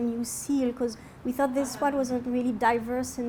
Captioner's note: audience laughs